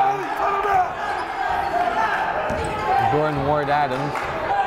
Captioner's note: yelling